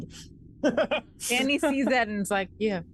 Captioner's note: Omega laughs